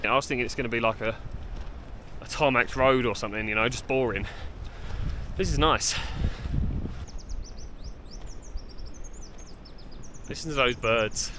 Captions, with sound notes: I was thinking it's going to be like a tarmac road or something, just boring. This is nice. [birds chirping] Listen to those birds.